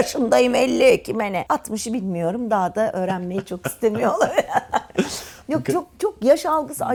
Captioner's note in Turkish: kahkaha